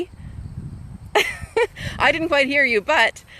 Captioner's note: laughing